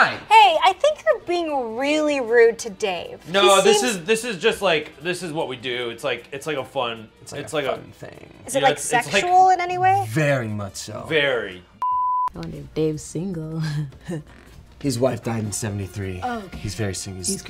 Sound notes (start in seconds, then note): 14.2 chuckles